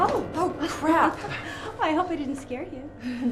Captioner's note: Carol chuckles